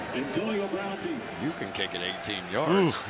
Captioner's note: pa announcement